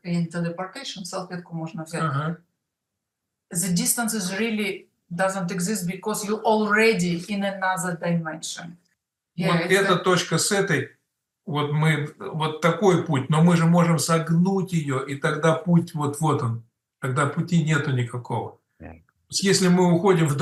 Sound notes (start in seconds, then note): 10.7 Russian